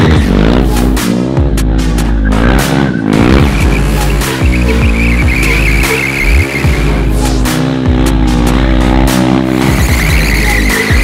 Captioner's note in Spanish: Más brooom broooom y rechinidos de llanta